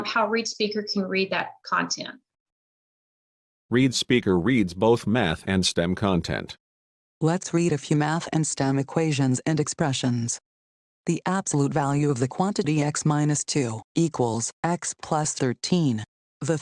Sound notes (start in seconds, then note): 3.9 male Computer Voice; 7.4 female Computer Voice